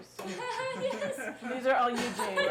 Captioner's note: laughing